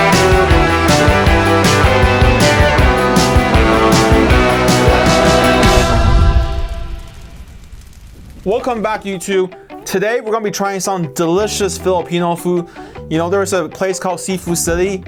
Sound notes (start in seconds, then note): none